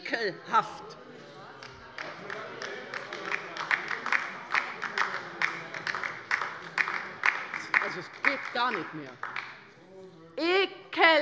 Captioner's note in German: Beifall bei der LINKEN